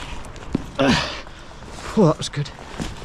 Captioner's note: grunts